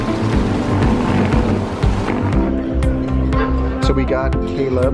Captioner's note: wheels rolling